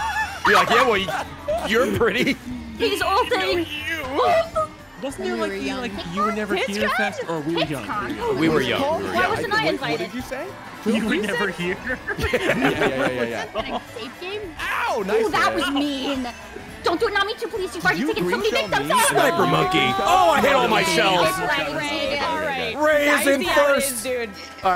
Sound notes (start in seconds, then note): 13.7 laughs